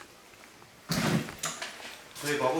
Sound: the sound of closing the door

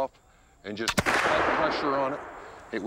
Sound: gunshot

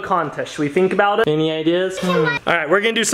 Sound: thinking noise

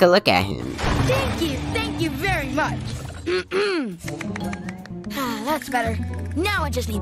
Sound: clap clap clap clap

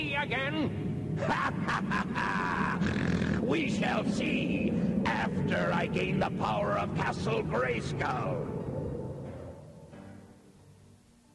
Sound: snort

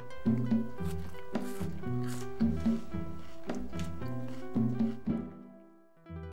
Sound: crunching

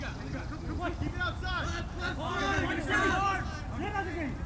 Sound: players yelling

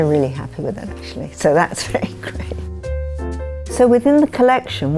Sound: chuckles

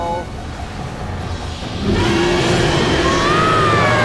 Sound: growling; screaming

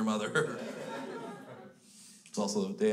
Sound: crowd laughs

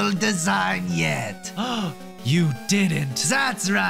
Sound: gasp

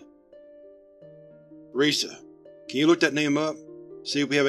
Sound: hushed to his assistant

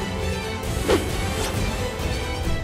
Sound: whooshing

